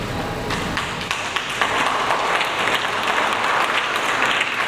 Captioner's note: audience applauds